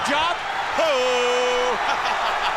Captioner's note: laughs